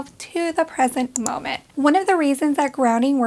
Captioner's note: click